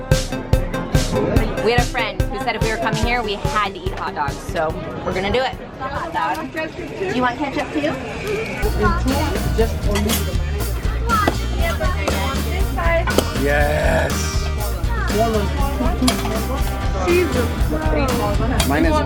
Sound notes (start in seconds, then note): 9.0 lady speaking in foreign language